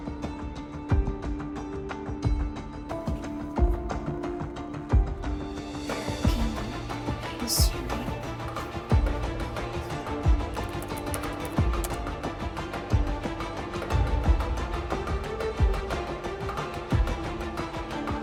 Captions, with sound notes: (lively orchestral music) - Hmm, history. (lively orchestral music continues) (keyboard clacking) (lively orchestral music continues)